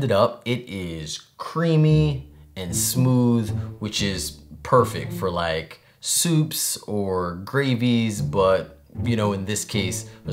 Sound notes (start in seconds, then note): none